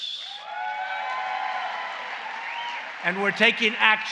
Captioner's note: applause